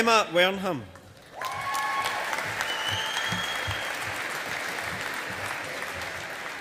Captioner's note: audience applauding